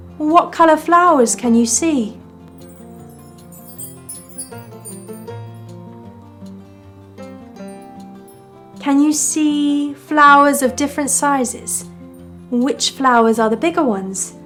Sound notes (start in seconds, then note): 2.4 upbeat music; 2.5 wind chimes jangling